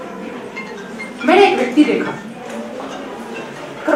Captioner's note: mobile rings in the background